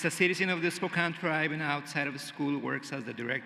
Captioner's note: cheering and applause